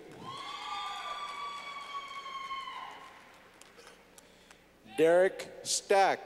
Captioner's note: clapping